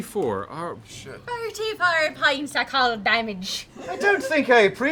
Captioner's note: mocking Gern's accent